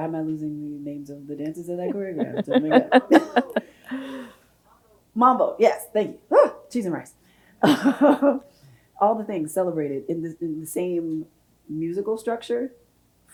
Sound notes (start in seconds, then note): 1.8 laughs